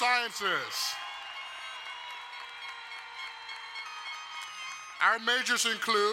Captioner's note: crowd cheering and applauding